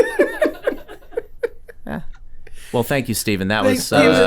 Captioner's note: laughing